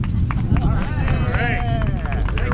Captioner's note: scattered applause